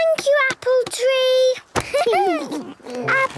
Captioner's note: laughter